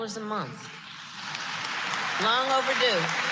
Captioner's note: applause